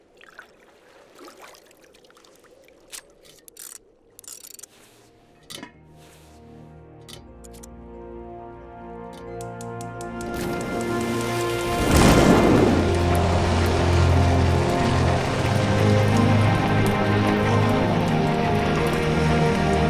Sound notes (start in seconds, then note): 6.7 instrumental music; 11.8 flame roars; 15.7 wind rushing